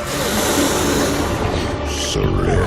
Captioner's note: demonic groan